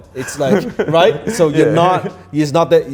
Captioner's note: laughs